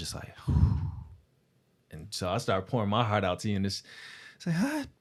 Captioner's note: exhales